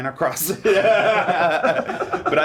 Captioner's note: laughing